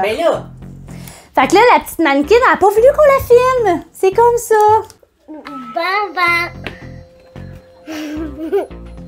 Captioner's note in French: rire